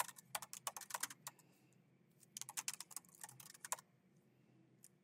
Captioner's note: keyboard clacking continues